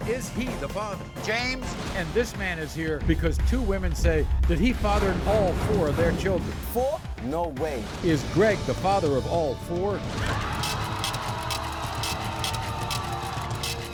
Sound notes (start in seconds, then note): 10.2 cheering; 10.5 scratching